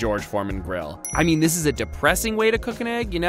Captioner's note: dings